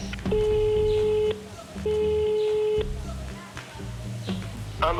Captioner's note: on speakerphone; line ringing; on phone